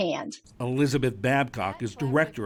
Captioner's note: voice-over